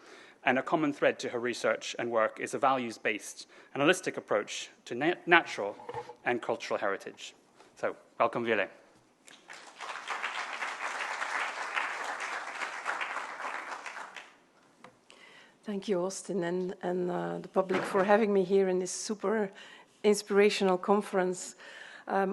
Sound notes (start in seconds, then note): 9.3 applause